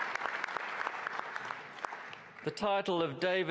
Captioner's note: applause